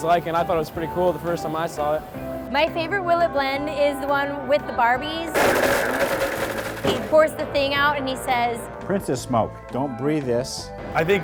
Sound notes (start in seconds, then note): 5.3 blender crunches